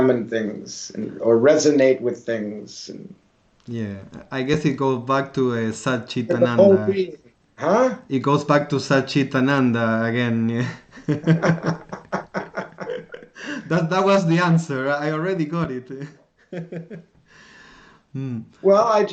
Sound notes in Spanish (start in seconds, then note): 10.6 Risas